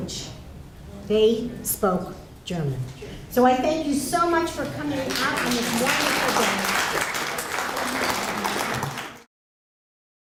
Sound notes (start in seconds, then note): 4.8 applause